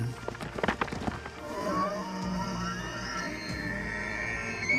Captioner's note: bellows